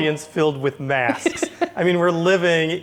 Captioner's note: laughs